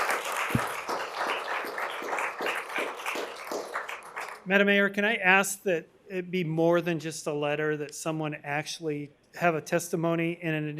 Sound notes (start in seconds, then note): 3.1 applause